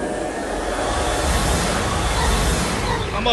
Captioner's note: engines humming